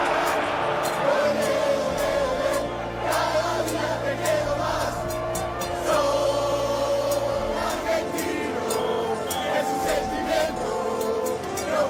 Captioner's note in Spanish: Aplausos